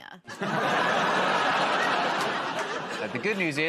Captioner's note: laughter